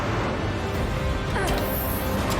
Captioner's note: grunts